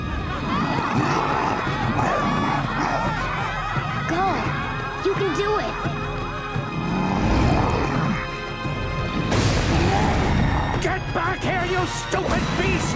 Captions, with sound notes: [laughing] [grunting] Go. You can do it. [grunting] Get back here, you stupid beast!